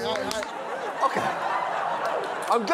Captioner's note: laughter